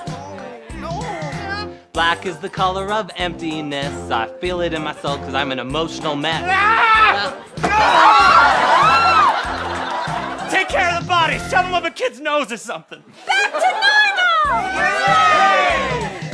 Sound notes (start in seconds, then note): 6.3 Mafuyu yells; 7.6 Mafuyu hits Rui and screaming